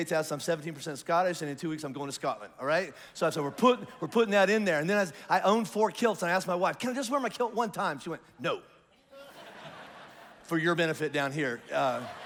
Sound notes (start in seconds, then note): 9.1 congregation laughs